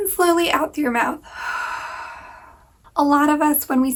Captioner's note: breathing